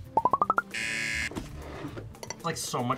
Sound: buzzer

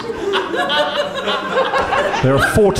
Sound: laughing

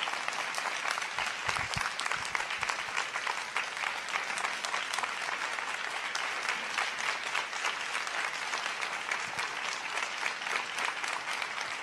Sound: applause

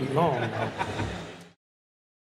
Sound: laughter

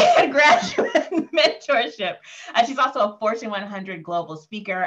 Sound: laughing

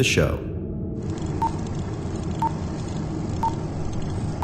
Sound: beeping

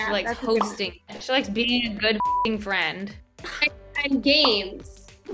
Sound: beep

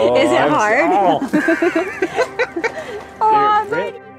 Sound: laugh

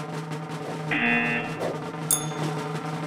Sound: drumroll echoes; buzzer rings; bell rings

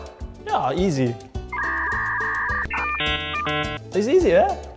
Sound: dial-up sound

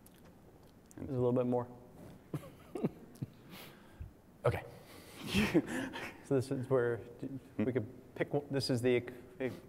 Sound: laugh

